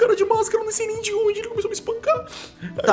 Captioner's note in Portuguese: choro